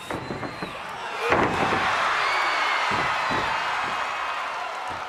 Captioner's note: audience cheering